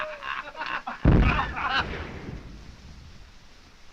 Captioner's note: bombs exploding